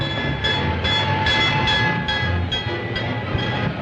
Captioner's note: bell dinging